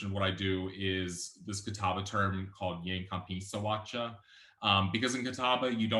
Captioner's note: speaking Catawba